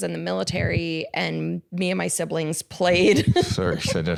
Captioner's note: laughs